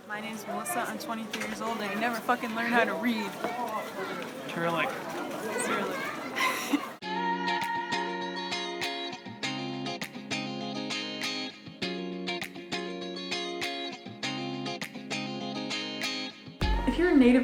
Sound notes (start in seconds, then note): 5.4 laughs; 7.0 background music